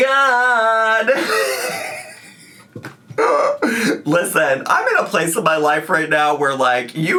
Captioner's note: laughing